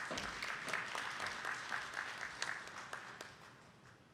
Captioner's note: attendees clapping